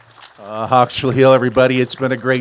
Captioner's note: cheers and applause; speaks a global language